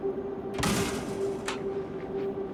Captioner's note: gate locking